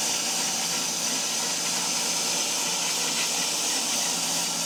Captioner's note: saw buzzing continues